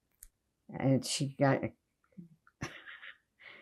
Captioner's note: laughing